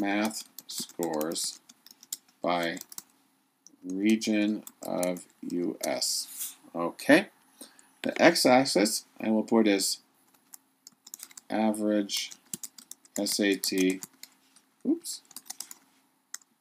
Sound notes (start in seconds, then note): 0.0 typing; 8.3 typing